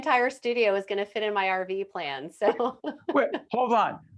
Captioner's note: laughing